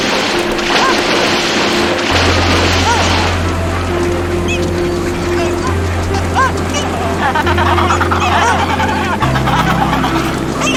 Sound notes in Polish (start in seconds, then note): 3.7 krzyk mew w oddali; 7.1 terkotanie pingwinów